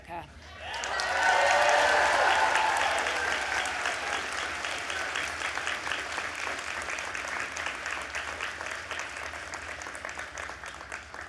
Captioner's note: applause